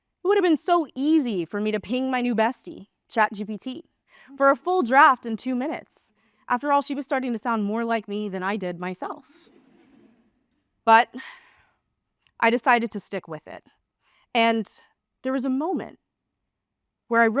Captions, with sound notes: It would have been so easy for me to ping my new bestie, ChatGPT, (gasp) for a full draft in two minutes. (gasp) After all, she was starting to sound more like me than I did myself. But (sigh) I decided to stick with it. And there was a moment where